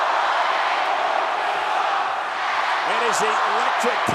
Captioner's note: crowd chants "Let's go Roman/Roman sucks"